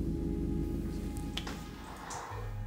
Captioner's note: splashing